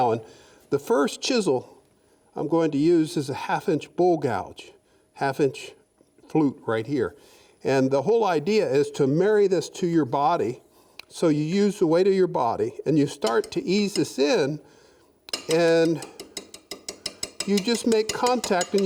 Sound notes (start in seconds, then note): 15.2 light tapping